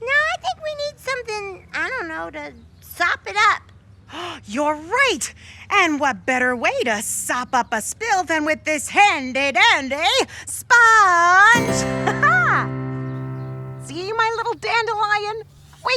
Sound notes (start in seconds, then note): 11.9 laughing